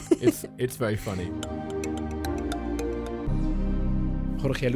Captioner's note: voiceover